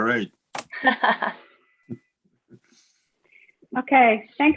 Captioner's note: laughing